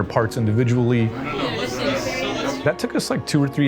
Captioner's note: choir chattering